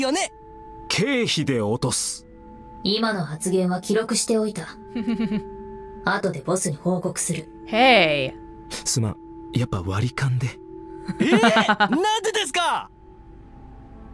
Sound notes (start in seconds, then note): 11.1 chuckles